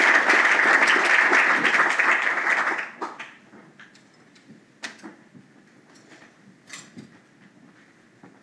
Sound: applause

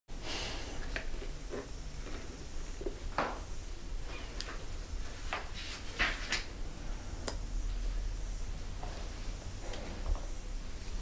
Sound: breathing, rustling, Ben sighing

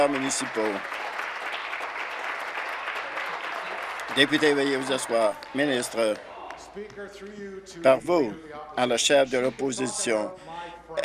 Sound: applause

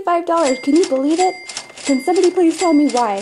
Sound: cash register rings

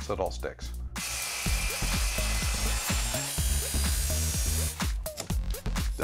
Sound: saw buzzing

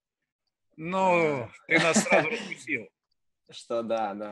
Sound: laughing

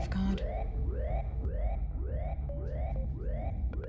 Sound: alarm blaring; suspenseful music

